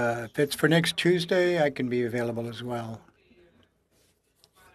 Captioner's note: speaking French